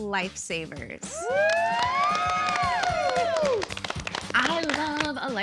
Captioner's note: cheering